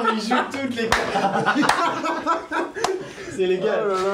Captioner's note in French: rires